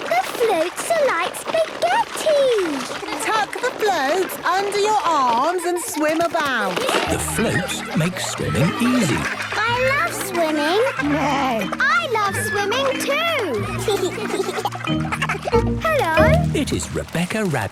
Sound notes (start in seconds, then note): 11.3 neighs; 14.1 giggles